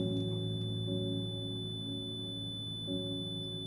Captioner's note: ears ringing